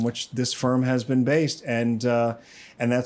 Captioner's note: inhales